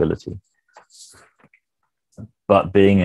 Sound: mouse clicks

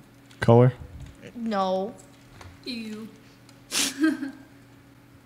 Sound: laughs

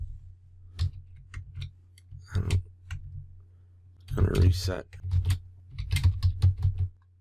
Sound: typing

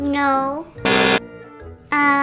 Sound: buzz

